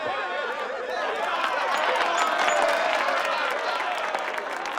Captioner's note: laughter and applause